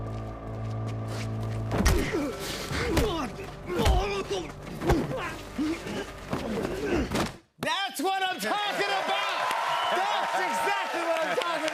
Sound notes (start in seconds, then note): 2.6 grunting; 8.4 cheers and applause